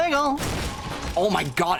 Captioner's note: loud crash